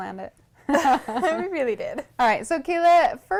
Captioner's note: laughter